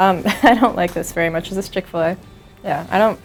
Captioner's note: laughs